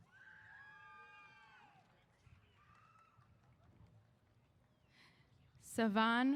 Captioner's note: cheers